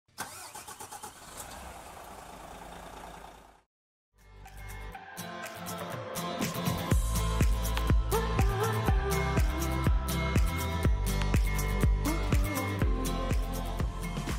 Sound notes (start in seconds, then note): 0.2 car engine revs; 4.3 upbeat playful music